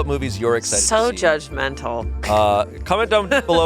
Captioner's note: laughs